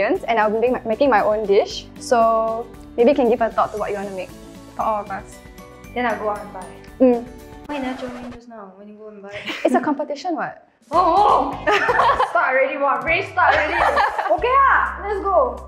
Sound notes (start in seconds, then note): 13.4 laughter